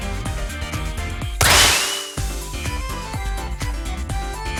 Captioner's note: splash!